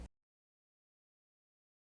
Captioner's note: silence